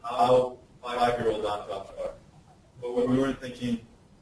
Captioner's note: distorted speech